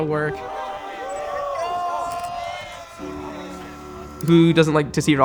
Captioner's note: cheering